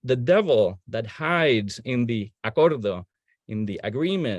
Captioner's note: speaking in foreign language